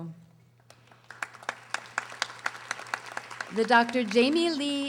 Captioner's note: audience applauding